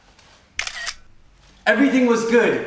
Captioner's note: camera clicking